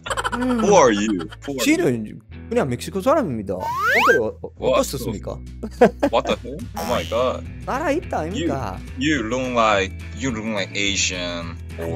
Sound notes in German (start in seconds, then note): 2.9 im Busan-Dialekt; 8.4 im Dialekt